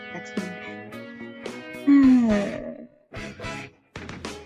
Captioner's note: sigh